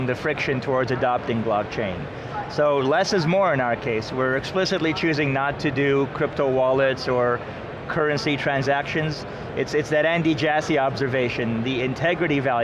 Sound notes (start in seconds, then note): none